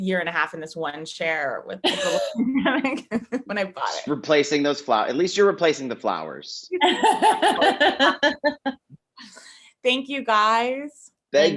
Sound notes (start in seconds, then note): 6.7 Jessie laughing